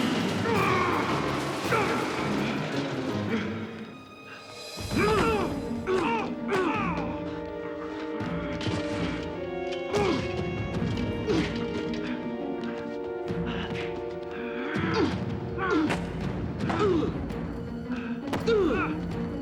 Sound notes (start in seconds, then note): 4.9 both grunting